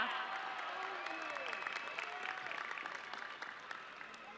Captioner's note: audience cheering